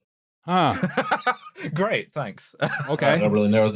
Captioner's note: laughs